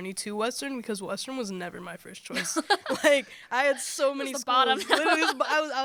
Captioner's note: laughter